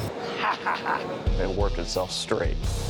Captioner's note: laughs